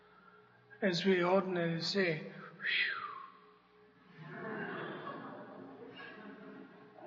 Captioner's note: laughter